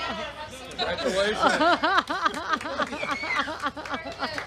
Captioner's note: laughter